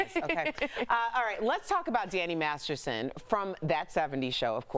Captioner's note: laughter